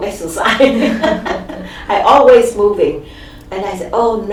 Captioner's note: laughs